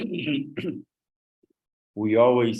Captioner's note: clears throat